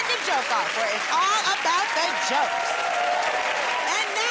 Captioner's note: cheers and applause